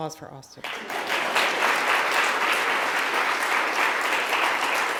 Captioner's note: audience clapping